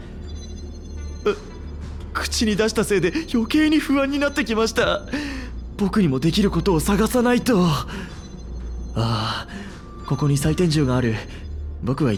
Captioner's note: sigh